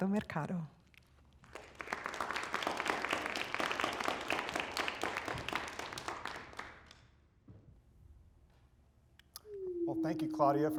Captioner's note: applause